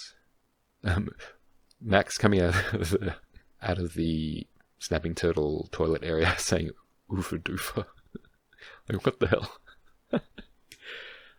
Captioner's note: laughs